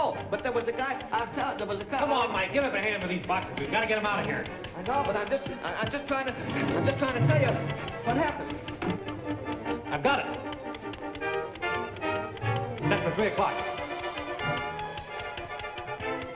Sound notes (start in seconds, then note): 5.2 stuttering; 10.3 dramatic music